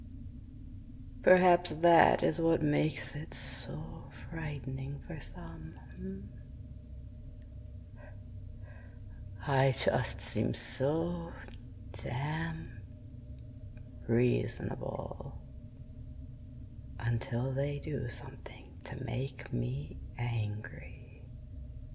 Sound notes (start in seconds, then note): none